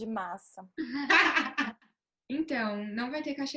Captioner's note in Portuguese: risos